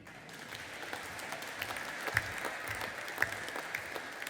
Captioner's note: audience applauding